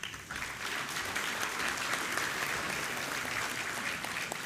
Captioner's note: applause